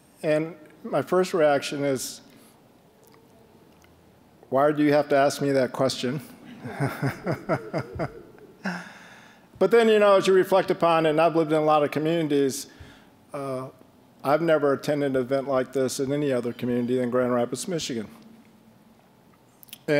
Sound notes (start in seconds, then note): 6.3 all chuckling